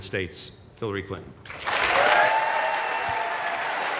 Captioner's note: applause and cheering